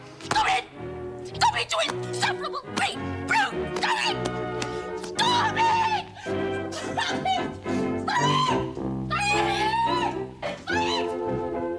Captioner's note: keeps screaming